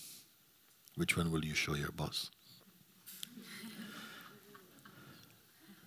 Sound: laughter

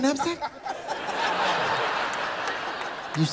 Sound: laughter

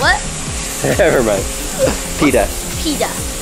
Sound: laughs

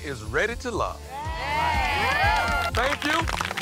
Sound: cheering

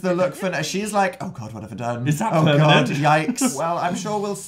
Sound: laughs

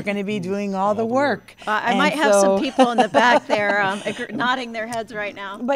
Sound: laughter

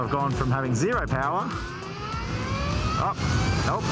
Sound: motor winds up

